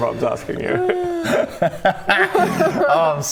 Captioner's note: proud laughter